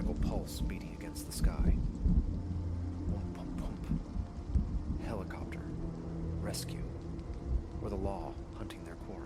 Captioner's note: whump-whump-whump